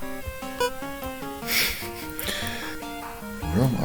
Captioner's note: nose laugh